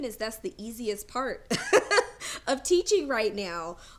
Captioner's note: laughs